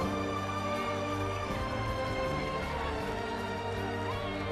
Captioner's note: crowd cheering